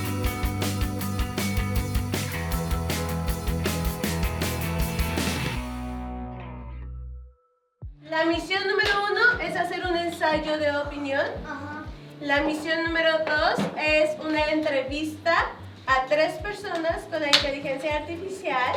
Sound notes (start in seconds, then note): 8.0 speaking in Spanish